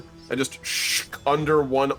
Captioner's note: shhhk